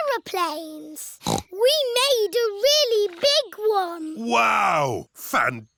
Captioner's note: snorts